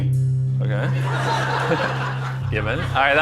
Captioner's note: laughter